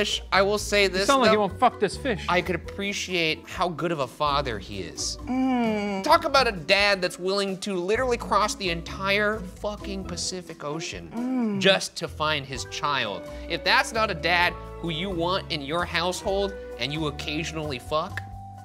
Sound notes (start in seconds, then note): 5.2 humming in agreement